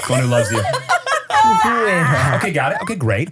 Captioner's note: everybody laughs